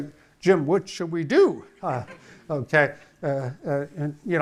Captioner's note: audience laughing